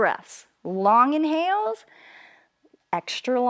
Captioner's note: inhales